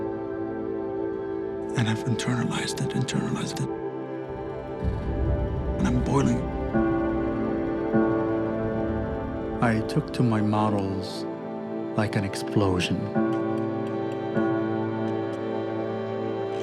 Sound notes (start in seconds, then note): 5.7 speaking foreign language; 13.7 solemn music